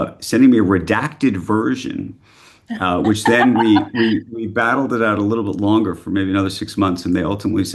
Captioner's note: laughter